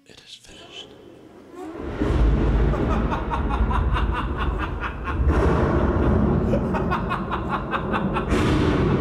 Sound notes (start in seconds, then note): 1.6 thunder rumbling; 4.8 devil laughing menacingly